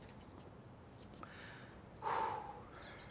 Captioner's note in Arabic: زفير في الإثارة